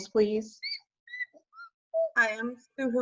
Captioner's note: childlike squeaking